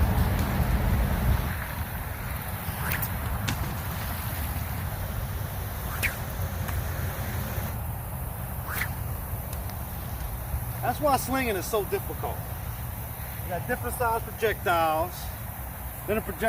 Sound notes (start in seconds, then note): 0.2 splash; 2.5 sling whips; 3.6 splash; 5.7 sling whips; 7.1 loud splash; 8.6 sling whips; 9.5 splash